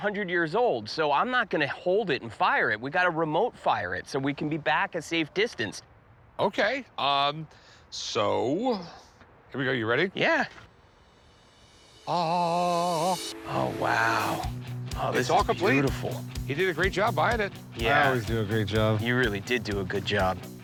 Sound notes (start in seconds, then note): 10.7 imitates choral music